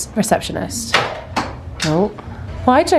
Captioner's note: dart clacks